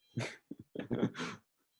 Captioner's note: laughing